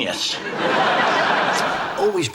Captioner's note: audience laughs